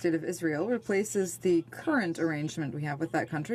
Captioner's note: speaking in french